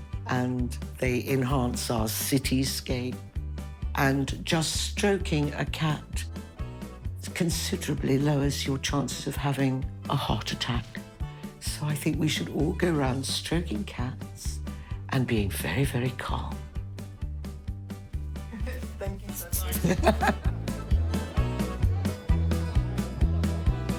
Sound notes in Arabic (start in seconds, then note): 19.4 تضحك; 21.1 موسيقى حماسية